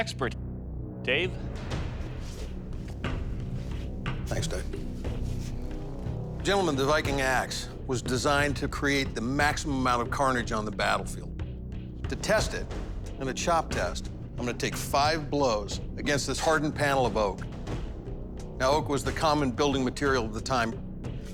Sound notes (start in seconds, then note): none